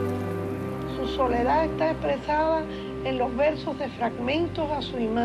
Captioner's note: speaking Spanish